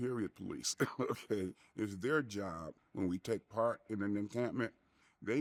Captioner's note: chuckles